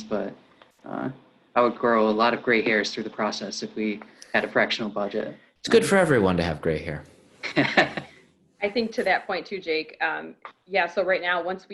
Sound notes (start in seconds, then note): 7.4 chuckling